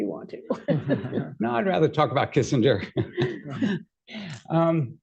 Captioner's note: laughter; laughs